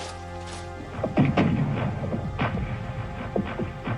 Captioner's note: artillery firing